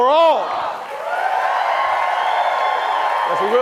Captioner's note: applause